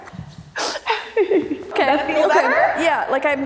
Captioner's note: laughing